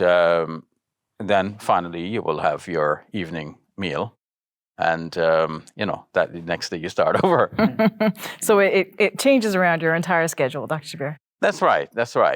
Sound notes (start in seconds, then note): 7.1 interviewer chuckles